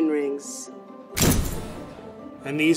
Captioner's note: thunk